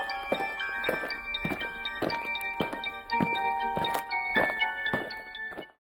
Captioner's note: eerie music; aliens marching